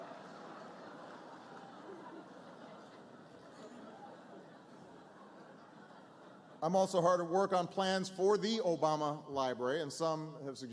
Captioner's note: laughter